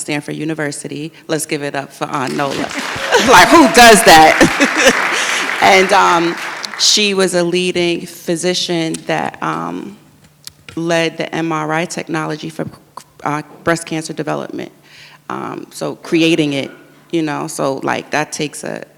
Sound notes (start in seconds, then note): 2.2 audience claps